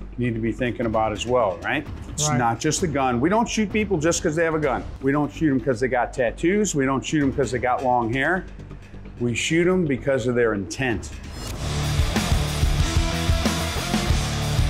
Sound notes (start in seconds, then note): 11.1 whooshing; 11.5 rock music